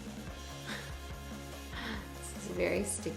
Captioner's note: chuckling